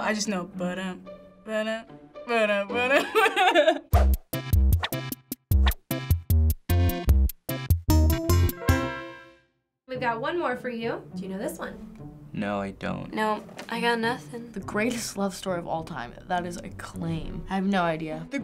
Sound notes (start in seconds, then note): 2.7 laughs; 3.9 quirky interlude